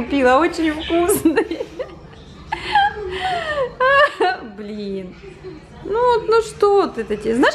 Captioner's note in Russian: смех